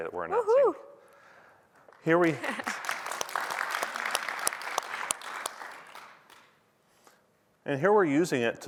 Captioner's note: applause